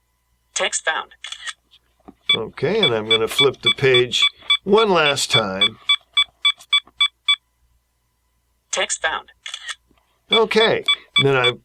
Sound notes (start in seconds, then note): 5.6 beeping